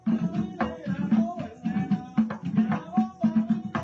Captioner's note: chants; tribal drumming